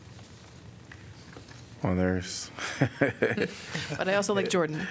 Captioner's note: laughter